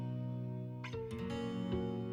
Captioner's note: none